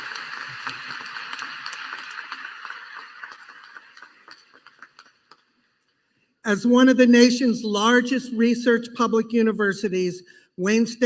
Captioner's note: applause